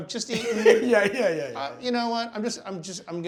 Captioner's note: laughs